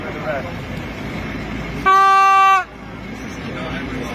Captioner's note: honking